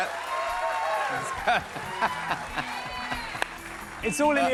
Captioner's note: laughs